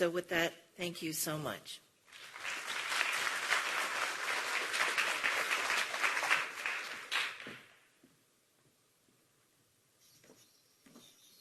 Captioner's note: applause